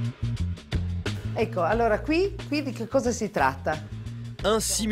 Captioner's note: speaks in Italian